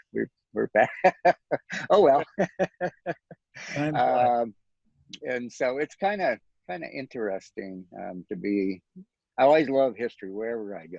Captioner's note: laughs